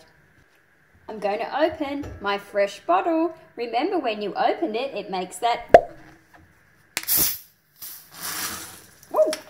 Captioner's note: can opening sound